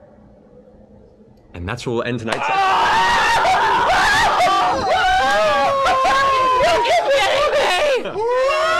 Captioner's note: screaming